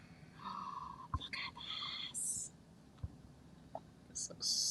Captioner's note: gasping